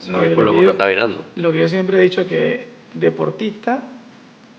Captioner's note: speaking Spanish